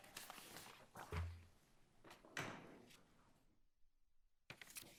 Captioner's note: papers rustle